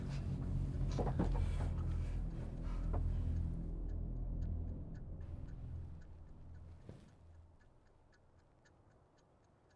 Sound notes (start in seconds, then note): 1.7 German soldier panting heavily; 5.6 clock continues ticking